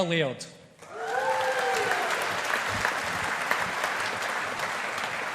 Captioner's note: audience applauding